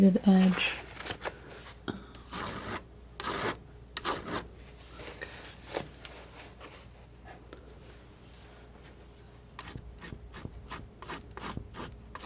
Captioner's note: scraping